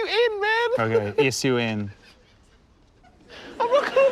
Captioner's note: laughter